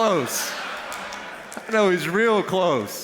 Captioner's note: laughter